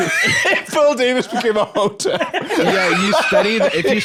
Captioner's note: laughing